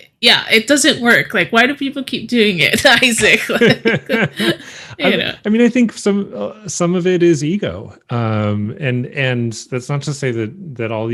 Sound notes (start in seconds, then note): 2.7 laughing